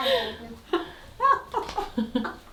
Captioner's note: both laughing